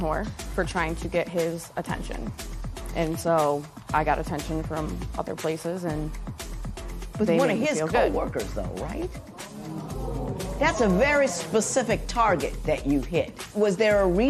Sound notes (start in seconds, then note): 9.3 spectators murmur